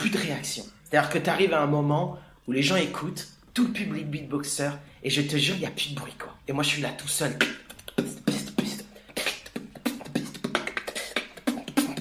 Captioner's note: beatbox